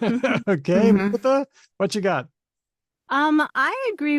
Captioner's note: chuckles